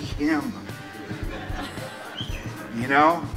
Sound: audience laughs

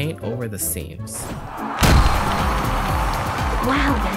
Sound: crowd cheering sounds

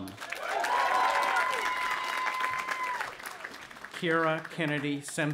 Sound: audience applauding and cheering

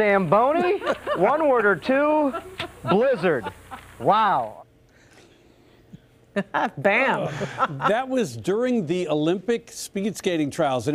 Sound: laughter

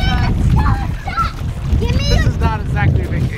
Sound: kids shouting

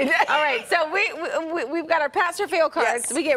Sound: laughter

